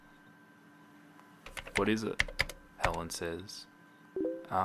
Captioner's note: hitting keys on keyboard; Facebook message sound